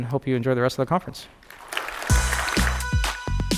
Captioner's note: applause